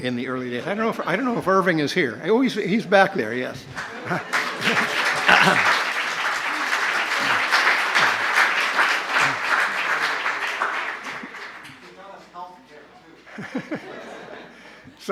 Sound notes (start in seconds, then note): 3.7 applause; 13.2 laughter